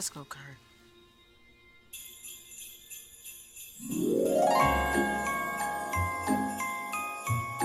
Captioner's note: jingle bells ringing; upbeat holiday music